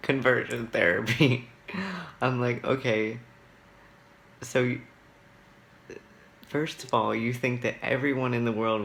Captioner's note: laughs